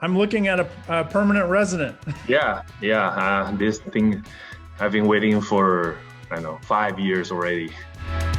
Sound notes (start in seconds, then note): 1.9 laughing; 8.1 bright upbeat music